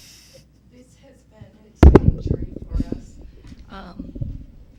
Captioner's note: woman mumbling